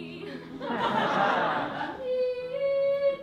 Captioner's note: laughter